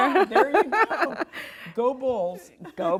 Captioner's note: laughs